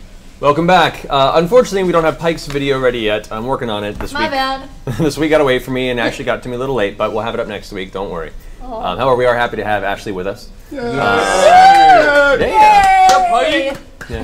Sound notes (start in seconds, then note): 10.7 all cheer